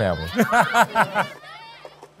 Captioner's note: children shout; laughs